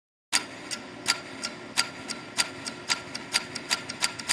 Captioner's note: clock ticking